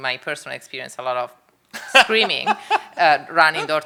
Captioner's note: laughing